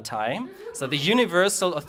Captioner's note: speaks German